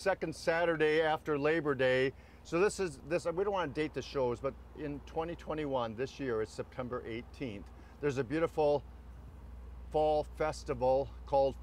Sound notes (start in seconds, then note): none